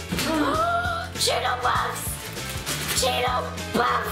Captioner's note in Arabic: صيحات